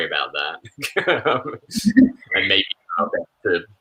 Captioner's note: chuckles